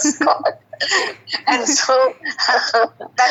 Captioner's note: both laughing